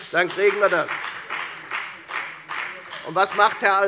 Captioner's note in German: Beifall bei der FDP